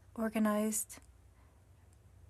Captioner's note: speaking french